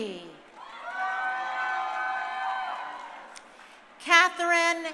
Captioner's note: crowd cheering